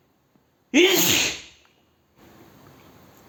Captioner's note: sneeze